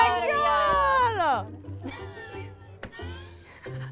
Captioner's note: laughs